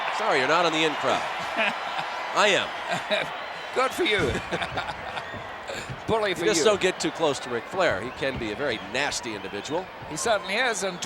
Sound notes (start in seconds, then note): 2.8 laugh